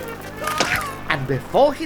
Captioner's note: crunch